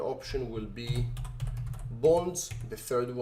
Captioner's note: keyboard typing